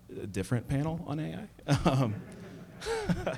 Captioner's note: laughter